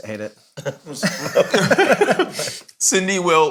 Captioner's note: all laughing